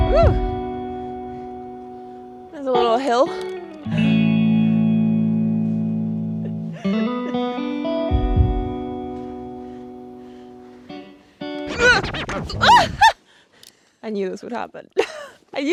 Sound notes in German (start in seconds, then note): 6.7 lacht; 12.6 grunzt; 15.4 lacht